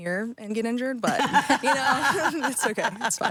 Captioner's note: Stephanie laughing